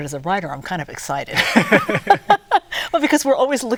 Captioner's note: both laughing